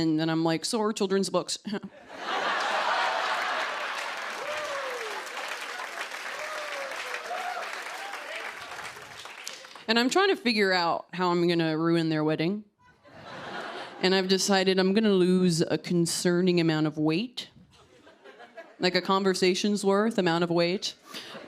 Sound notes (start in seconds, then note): 1.6 laughter; 4.4 applause